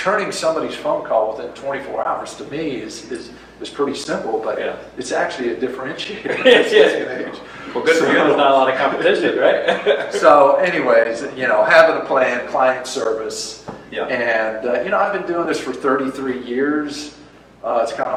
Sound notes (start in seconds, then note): 6.2 laughs